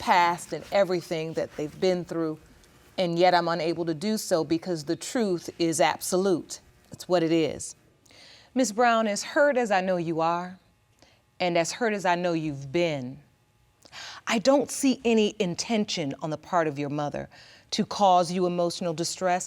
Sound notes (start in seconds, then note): none